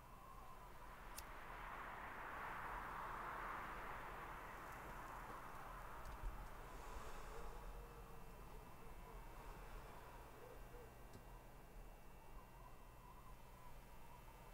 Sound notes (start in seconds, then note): 1.2 lighter flicks; 6.5 man breathes deeply